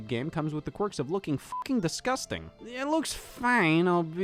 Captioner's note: beep